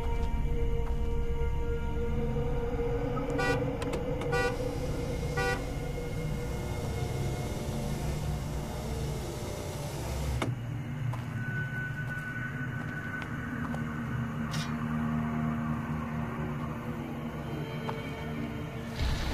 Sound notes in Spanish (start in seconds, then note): 6.0 Claxon